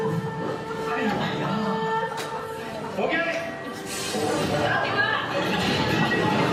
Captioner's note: speaking foreign language